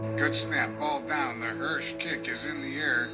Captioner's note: radio Announcer